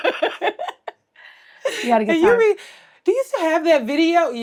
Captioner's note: Blac Chyna laughs